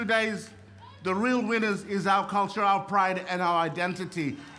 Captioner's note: cheering and applause